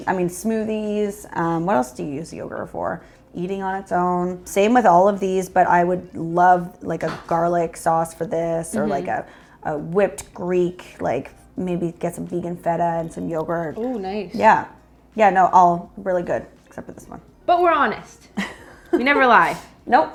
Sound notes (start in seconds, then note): 18.4 chuckles